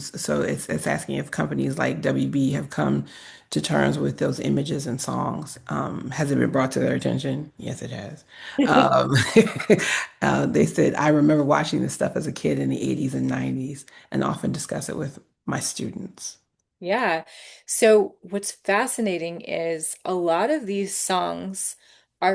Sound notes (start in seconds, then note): 8.6 both chuckle